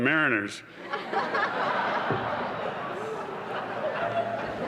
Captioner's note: laughter